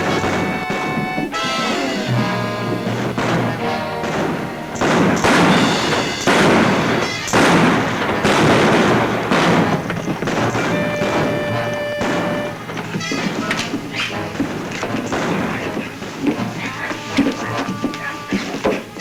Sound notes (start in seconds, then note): 5.2 exciting music; 5.2 guns bang